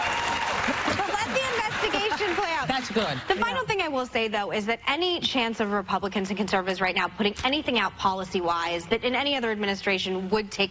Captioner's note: cheers and applause